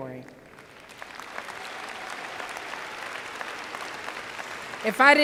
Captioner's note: applause